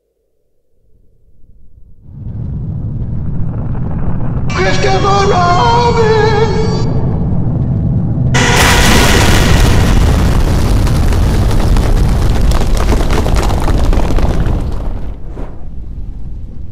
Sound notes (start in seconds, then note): 1.3 ground rumbling, fire approaching; 6.7 ground rumbling; 8.3 Pooh yelling, earth exploding; 14.7 fire sounds